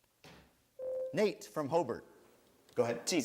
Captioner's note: bell rings